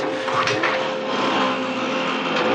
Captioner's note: bikes starting